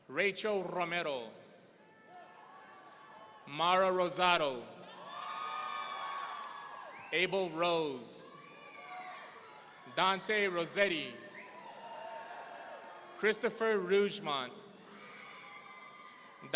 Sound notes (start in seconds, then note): 1.8 audience cheering; 11.4 audience cheering; 15.0 audience cheering